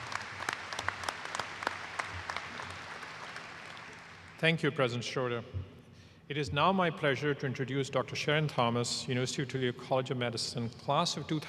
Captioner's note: applause